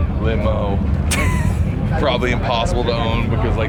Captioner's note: laughing